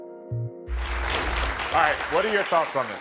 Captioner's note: audience applauding